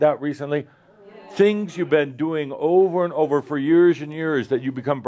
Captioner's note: audience says “Yes”